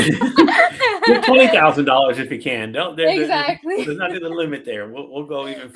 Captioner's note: laughs